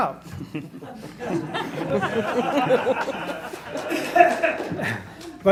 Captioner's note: laughing